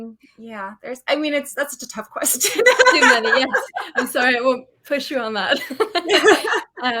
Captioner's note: laughs